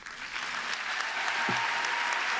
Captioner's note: applause